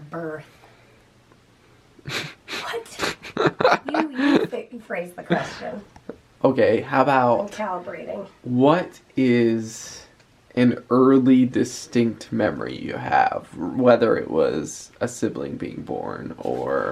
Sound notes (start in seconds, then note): 3.0 laughing